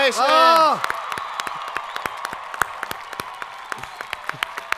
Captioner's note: audience applauding